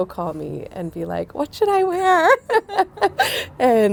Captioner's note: laughing